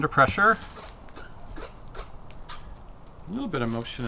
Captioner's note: faucet squeaking